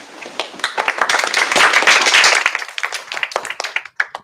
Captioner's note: applause